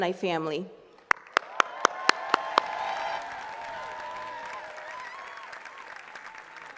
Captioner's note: attendees cheering and clapping